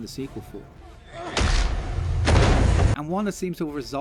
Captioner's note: cracking spine